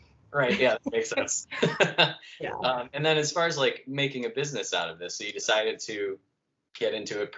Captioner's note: laughter